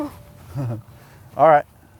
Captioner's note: chuckles